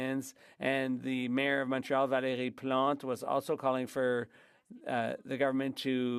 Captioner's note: speaking French